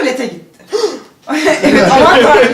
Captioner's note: gasping in shock